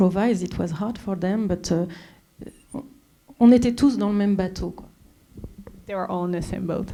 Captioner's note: speaking French